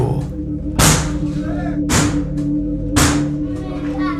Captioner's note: banging on door